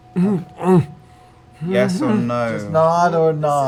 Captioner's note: muffled moaning